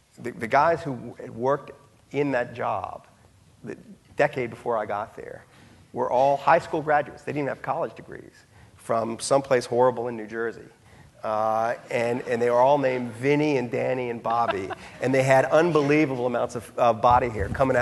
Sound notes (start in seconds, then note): 11.8 audience laughing; 14.3 laughing